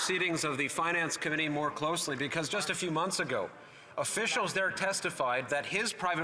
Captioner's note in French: voix de l'interprète